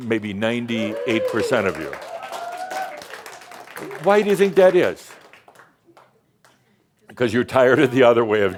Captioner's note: some cheers and applause